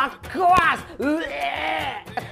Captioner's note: puke nosie